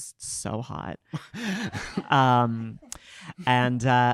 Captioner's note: audience laughing